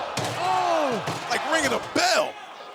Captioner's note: trash can bangs